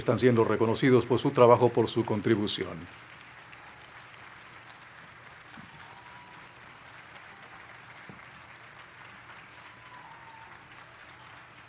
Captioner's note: cheers and applause